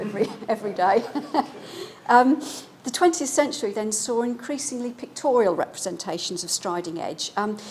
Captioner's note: laughs